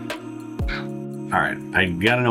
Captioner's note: mouth noise